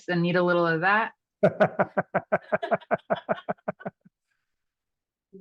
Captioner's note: both laughing